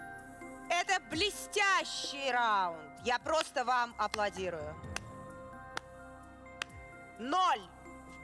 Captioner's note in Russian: хлопает медленно